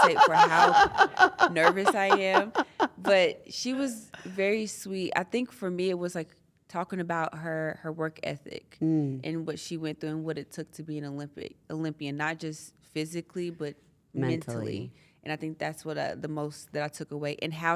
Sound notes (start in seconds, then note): 2.8 laugh